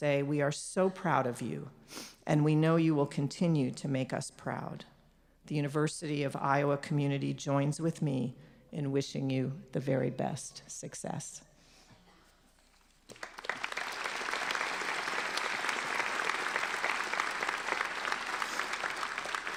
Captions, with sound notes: we are so proud of you and we know you will continue to make us proud. The University of Iowa community joins with me in wishing you the very best success. (applauding)